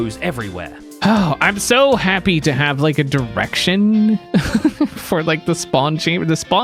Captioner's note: chuckles